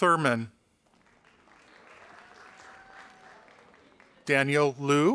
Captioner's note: audience applauding